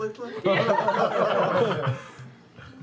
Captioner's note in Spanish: risas